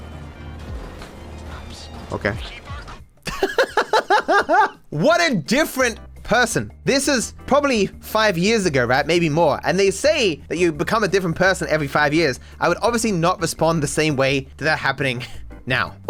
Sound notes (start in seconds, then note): 3.2 laughs